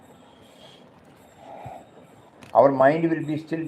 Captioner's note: exhales loudly